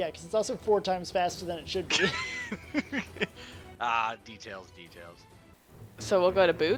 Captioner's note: laughs